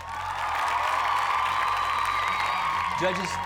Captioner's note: cheers and applause